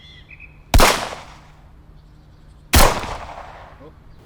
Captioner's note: gun bangs